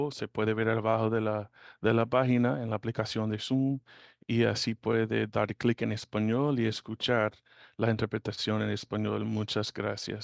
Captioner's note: speaking Spanish